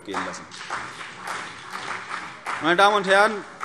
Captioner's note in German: Beifall CDU und BÜNDNIS 90/DIE GRÜNEN